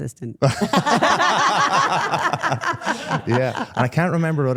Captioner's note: participants laugh